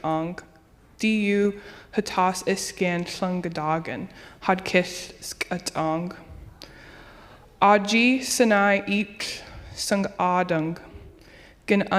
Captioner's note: speaking native language